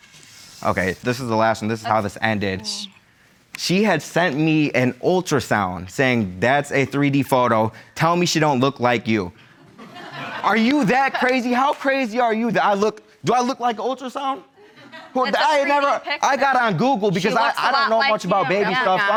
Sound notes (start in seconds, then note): 9.6 audience laugh